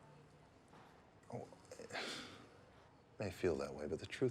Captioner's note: sighs